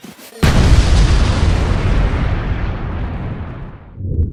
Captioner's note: massive explosion sound